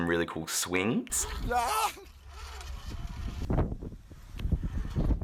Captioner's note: yells